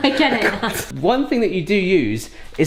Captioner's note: laughing